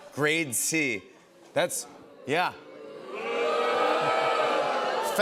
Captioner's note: crowd booing